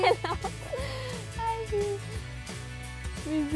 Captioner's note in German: lachend